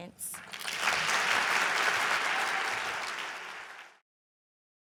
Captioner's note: audience applauding